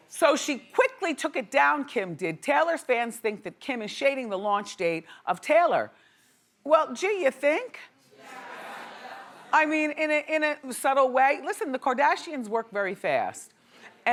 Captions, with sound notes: So she quickly took it down, Kim did. Taylors fans think that Kim is shading the launch date of Taylor. Well, gee, you think? (audience saying yes) I mean, in a subtle way. Listen, the Kardashians work very fast